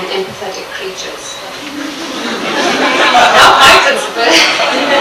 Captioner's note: audience laughs